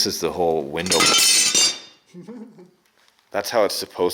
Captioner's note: metal clattering